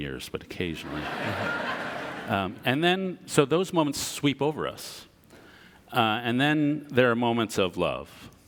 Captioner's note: audience laughter